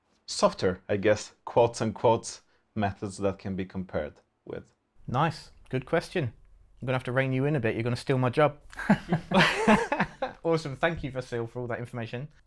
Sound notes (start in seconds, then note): 8.7 nervous laughter